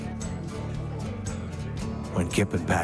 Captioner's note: upbeat music; people chatting